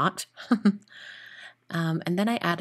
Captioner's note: giggling